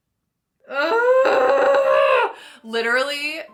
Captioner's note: laughs; groans